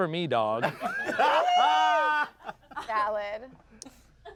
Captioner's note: everyone laughs